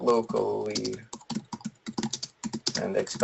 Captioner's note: keyboard strokes